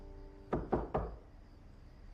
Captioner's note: knocking